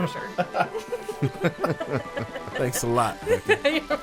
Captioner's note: laughing